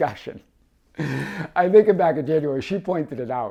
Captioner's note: laughs